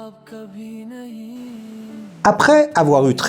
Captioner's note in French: chant